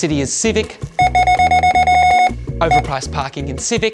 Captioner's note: scanner beeping repeatedly